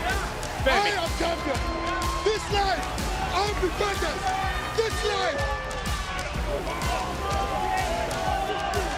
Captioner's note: yelling